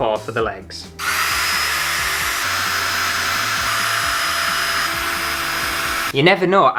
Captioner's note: drill Noises